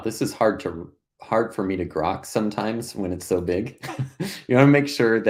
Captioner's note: laughing